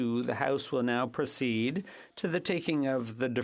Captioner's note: speaking French